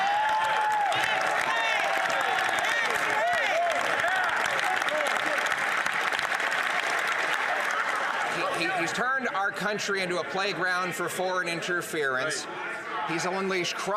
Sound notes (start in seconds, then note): 4.1 some Applause